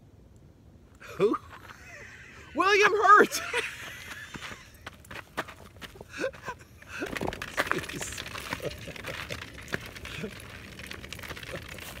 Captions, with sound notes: Who? - William Hurt! (laughs) (plastic dragging) (Kevin laughs)